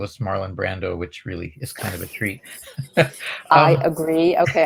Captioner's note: laughs